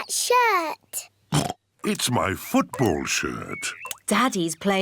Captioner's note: oinks